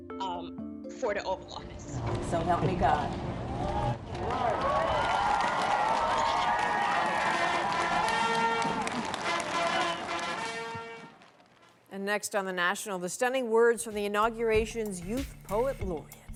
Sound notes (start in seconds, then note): 8.9 applause